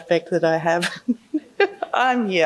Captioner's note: laughing